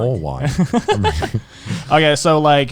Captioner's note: laughs